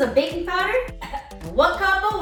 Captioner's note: coughs